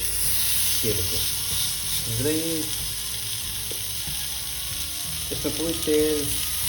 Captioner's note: sizzling sound comes up